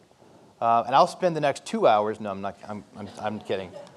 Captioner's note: audience laughs